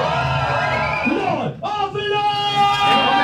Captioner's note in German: schreit